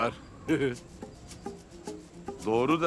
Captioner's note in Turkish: Gülme sesi